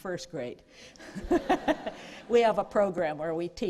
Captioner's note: laughter